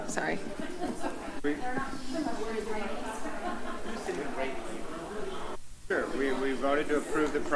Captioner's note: background chatter